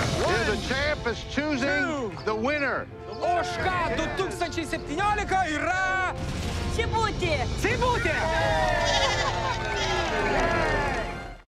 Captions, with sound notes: - You're the champ that's choosing the winner. - [speaking Lithuanian] - Cibute. - Cibute! [bleating] - Yay!